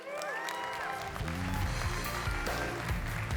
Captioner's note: applause